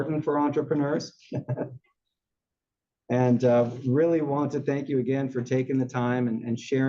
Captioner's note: laugh